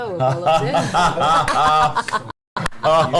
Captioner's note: all laugh